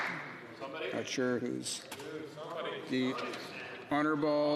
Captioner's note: some Applause